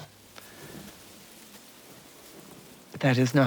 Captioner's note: wind blowing